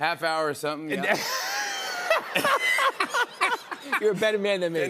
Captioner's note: laughter